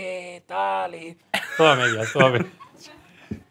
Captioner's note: laughs